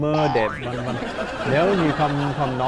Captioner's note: laughing